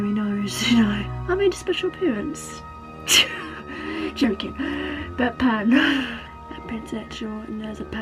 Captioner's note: laughs at own joke